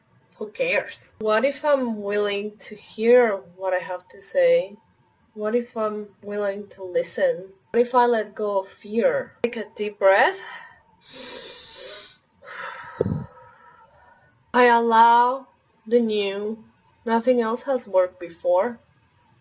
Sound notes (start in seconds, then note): 11.0 breathe in; 11.0 breathe out